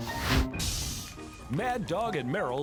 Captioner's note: sizzling